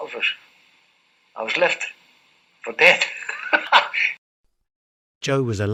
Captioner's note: laughter